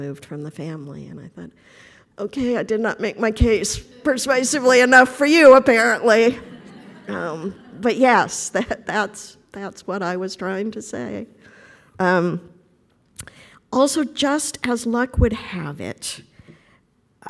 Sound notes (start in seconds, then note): 6.4 laughter